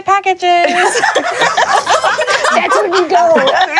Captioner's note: laughter